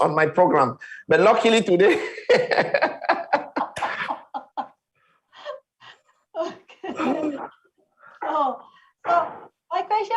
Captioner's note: laughing